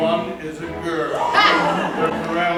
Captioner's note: Noises of shock, KATISHA laughs